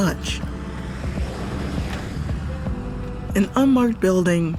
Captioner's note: traffic noise